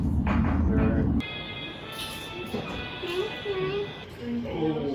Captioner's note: monster movie noises; chitter chatter